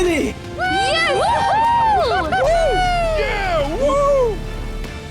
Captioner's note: Blue Team cheering